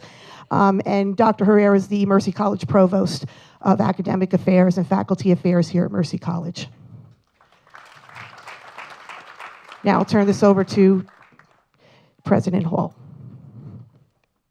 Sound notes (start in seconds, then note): 7.3 applause